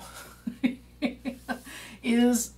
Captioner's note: laughing